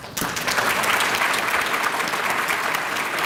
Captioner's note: applause